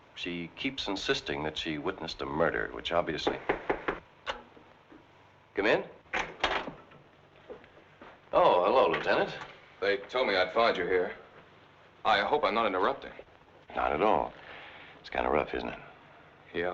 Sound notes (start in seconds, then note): 3.3 fist rapping; 6.1 door rattling